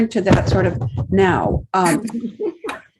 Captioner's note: laughs